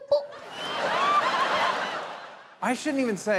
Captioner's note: audience laughing